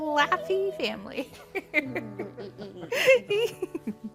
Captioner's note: chuckling